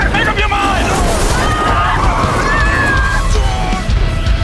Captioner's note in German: schreit